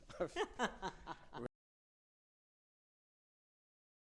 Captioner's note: laughing